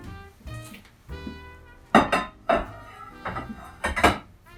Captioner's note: glass clanking